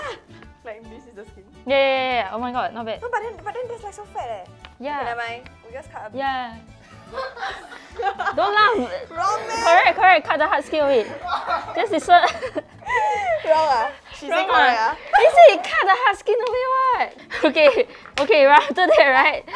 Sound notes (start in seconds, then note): 6.9 producer laughs